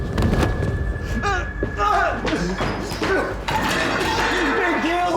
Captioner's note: body falls to ground; yelling